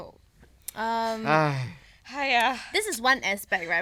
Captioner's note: sighing in unison